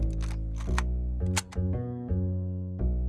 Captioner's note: camera shutter clicks